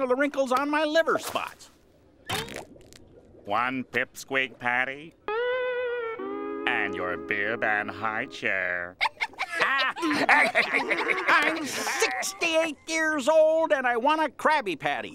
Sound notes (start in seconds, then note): 8.9 laughing